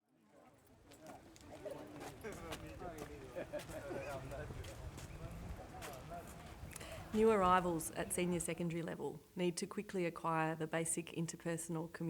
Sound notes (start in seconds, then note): 0.0 students chatter indistinctly